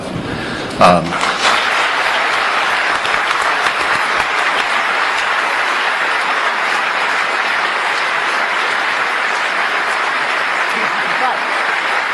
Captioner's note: applause